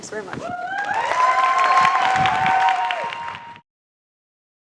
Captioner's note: crowd applauding